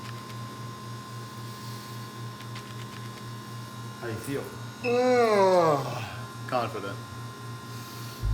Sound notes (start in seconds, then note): 4.8 yawning